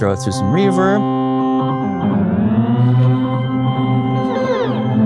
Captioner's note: loud humming